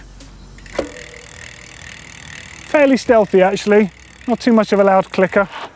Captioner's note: wheel turning